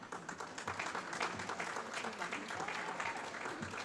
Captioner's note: applause